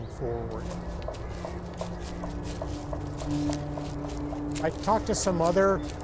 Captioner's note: paw steps crunching